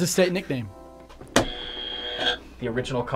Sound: buzzer rings

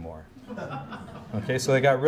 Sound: audience chuckles

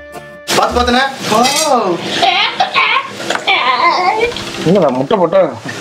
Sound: hen sound

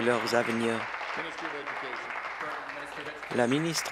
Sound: applause

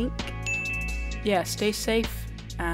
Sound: ping

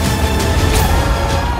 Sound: screams

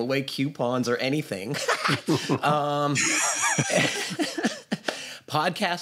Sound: laughter

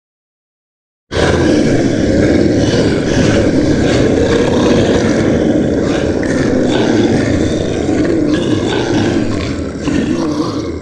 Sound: sound of monster

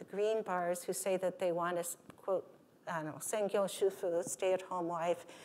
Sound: speaking japanese

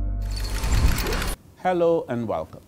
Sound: calm instrumental music; shutters closing

